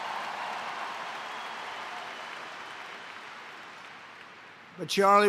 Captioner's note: applause